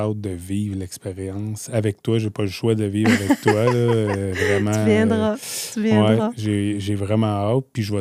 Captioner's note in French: rires